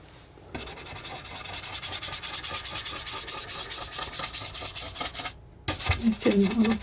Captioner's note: scratching